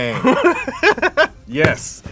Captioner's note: laughs